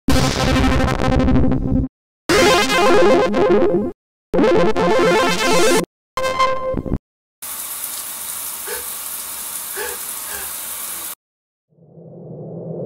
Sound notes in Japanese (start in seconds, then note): 7.4 すすり泣き; 7.4 シャワー水が流れる